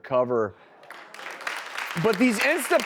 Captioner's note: audience applauds